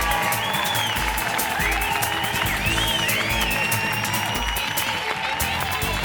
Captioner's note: audience cheering ang clapping; audience whistling; upbeat music; audience cheering ang clapping